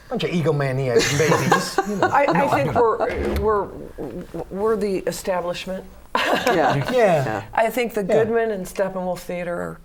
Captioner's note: laughter; laughter